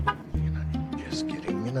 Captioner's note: gentle music; car honking